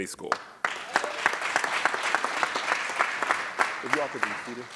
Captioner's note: audience claps